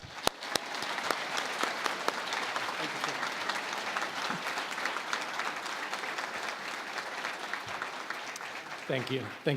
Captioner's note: applause